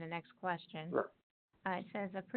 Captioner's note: coughs